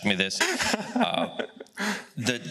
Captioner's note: laughs